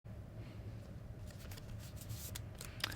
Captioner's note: sleeving noise